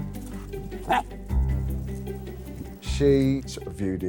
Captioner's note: dog barking